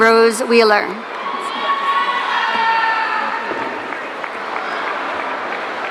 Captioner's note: audience cheering